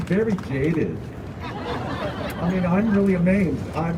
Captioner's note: crowd laughing